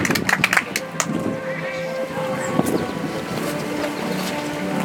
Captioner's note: audience applauds; soft music